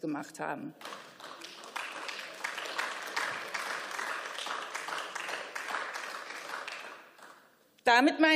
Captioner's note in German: Beifall